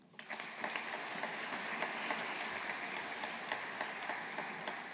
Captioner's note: audience applauding